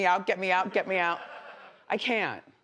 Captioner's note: audience laughs